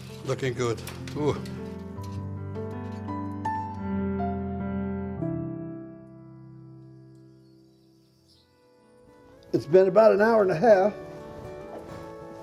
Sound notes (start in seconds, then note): 2.8 gentle piano music; 6.3 birds chirping